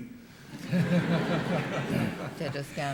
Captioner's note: laughter